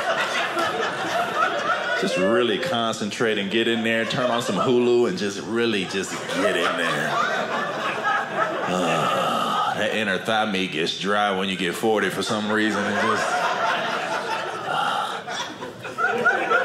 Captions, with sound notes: Just really concentrate and get in there. And turn on some Hulu and just really just get in there. Aah. That inner thigh gets dry when you get 40 for some reason, I guess. (audience laughing)